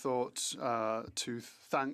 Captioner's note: speaking French